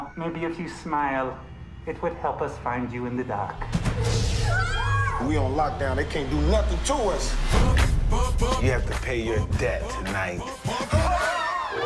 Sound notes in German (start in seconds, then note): 4.3 Schreie